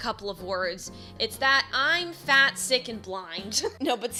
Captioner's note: chuckles